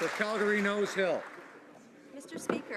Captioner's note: some Applause